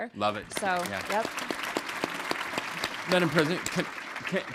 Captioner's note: audience and panelists applauding